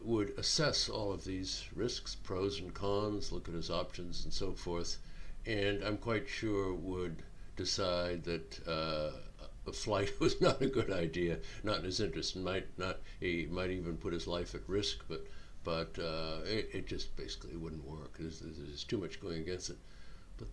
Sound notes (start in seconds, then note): 10.2 chuckling